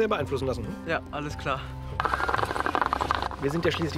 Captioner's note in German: Blubbern